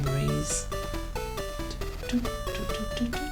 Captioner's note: hums along